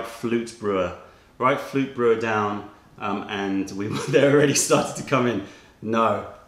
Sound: laughter

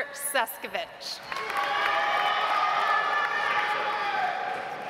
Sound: audience applauds

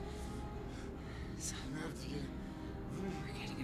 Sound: speaking foreign language

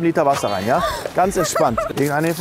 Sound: gasps

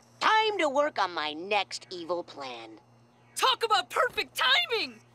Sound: none

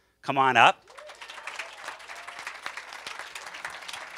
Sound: cheers and applause

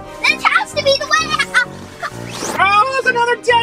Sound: assistant laughing

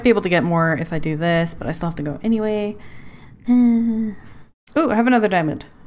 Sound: disgruntled sigh

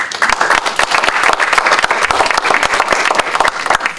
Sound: applause

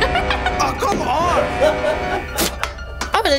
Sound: laughing

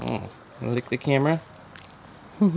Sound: chuckling

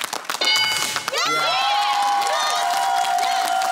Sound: cheering and applause

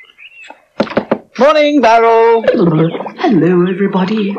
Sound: knocks On Barrel

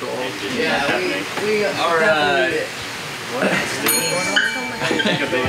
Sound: staff chatter and murmur

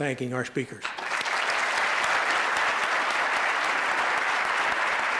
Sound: applause

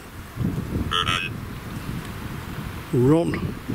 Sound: Ovilus makes sound like "run"

